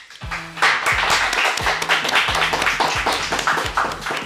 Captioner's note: the applause keeps coming